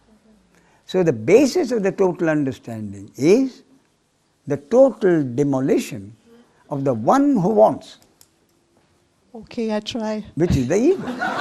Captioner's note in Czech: smích